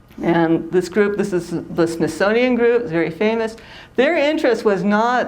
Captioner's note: none